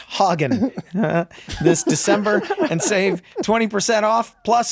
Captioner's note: laughs